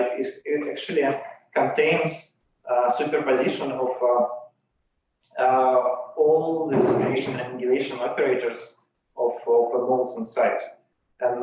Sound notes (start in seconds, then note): 6.7 chair scrapes